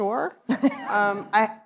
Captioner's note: laughs